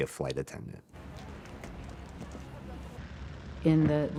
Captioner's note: engine running